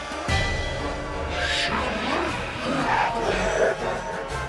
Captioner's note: even more distorted